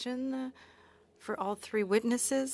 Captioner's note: speaking French